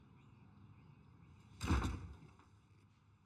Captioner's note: door slams shut